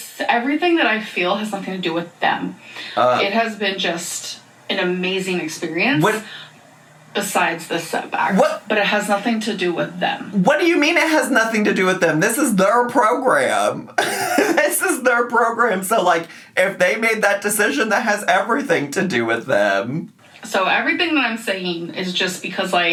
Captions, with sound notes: Everything that I feel has nothing to do with them. It has been just an amazing experience besides the setbacks, - What? - but it has nothing to do with them. - What do you mean it has nothing to do with them? This is their program. (laughs) This is their program so if they made that decision, that has everything to do with them. - So everything that I'm saying is just because